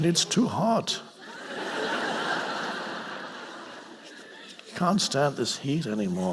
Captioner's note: audience laughing